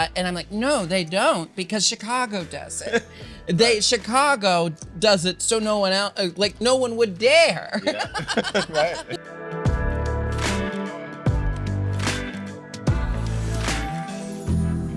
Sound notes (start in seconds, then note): 7.3 Jinkx laughing; 9.9 upbeat music